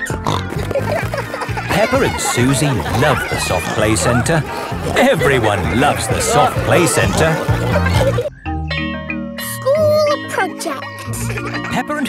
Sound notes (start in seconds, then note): 0.2 snorting; 8.7 school bell rings